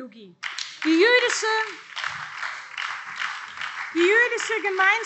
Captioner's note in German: Beifall BÜNDNIS 90/DIE GRÜNEN und SPD